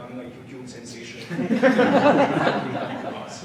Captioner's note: audience laughing